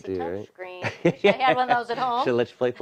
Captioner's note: laughing